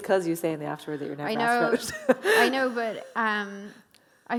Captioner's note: laughs